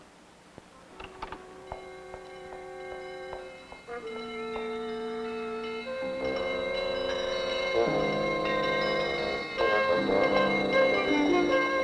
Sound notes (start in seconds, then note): 0.3 dramatic music; 5.1 bells chiming